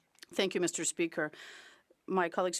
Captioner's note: speaking French